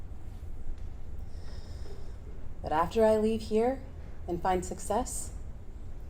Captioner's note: inhales